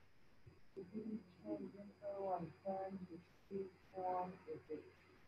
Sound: student speaking faintly

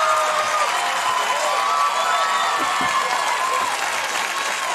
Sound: audience continues to cheer

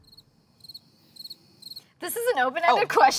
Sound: crickets chirp

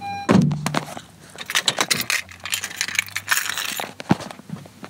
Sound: car door opening and closing; keys jangling

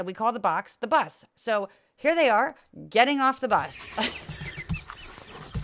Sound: laugh

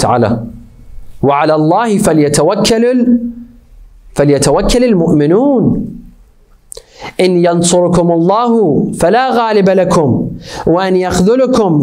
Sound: Arabic

